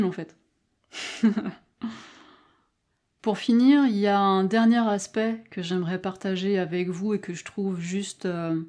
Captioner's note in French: rires